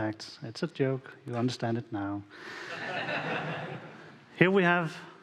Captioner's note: audience laughing